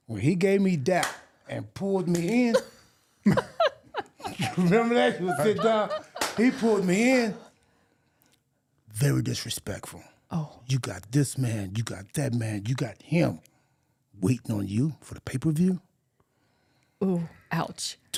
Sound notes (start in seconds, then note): 3.2 laughing; 3.2 Mark laughing